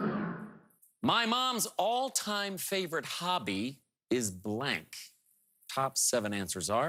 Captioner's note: whooshing